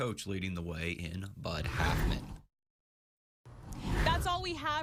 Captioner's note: air whooshes